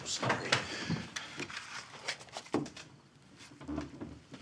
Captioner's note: chair clatters